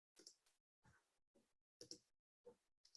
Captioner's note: computer clicking